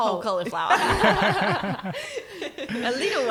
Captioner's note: laughing